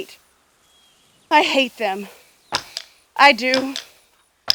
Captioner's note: marching